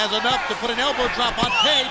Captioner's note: crowd chatter